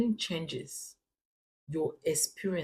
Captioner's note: paause